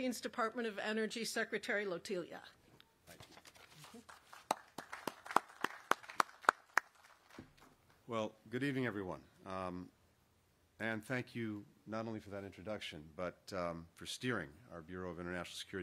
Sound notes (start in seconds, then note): 6.4 applause